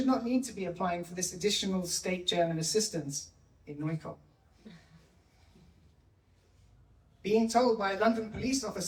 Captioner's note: German